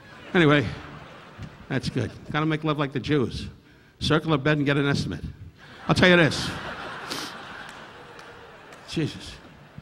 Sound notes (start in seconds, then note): 0.0 audience laughing; 5.6 audience laughing